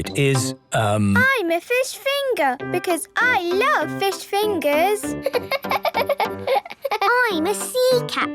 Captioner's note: laughing